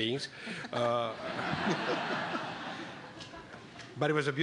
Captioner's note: laughter